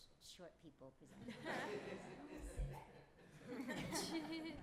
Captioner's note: laughter